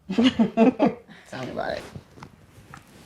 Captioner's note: ladies laughing